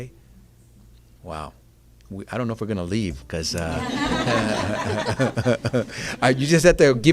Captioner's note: laughter